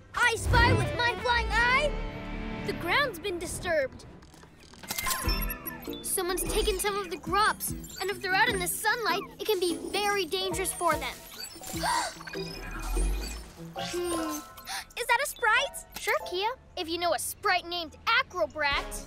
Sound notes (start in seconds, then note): 11.8 gasps; 14.6 gasps